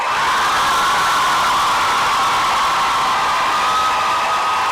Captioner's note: applause and cheering